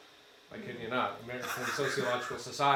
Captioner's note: attendee laughs